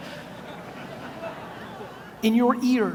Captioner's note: audience laughs